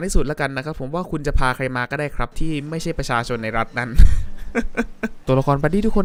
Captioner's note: chuckle